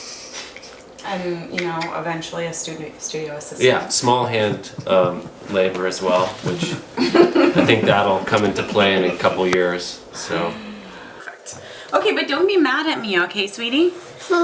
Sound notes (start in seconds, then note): 6.2 laughing